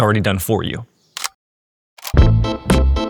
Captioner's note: camera clicking; upbeat exciting music playing